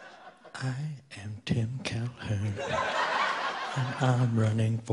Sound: audience laughing

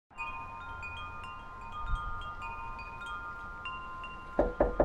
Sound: wind chimes; knocking

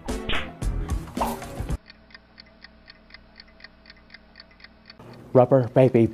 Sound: clock ticking

